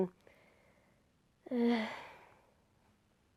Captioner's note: sighs uninterestedly